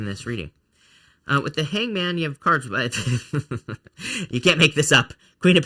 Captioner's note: laughs